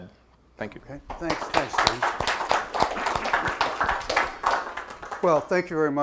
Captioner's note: applause